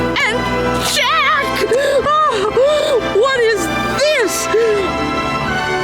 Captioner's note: panting